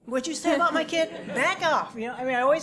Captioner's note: laugh